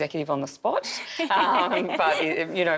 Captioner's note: laughing